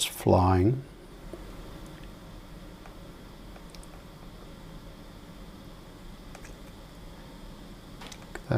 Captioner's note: silence